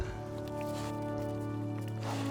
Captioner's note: sniffs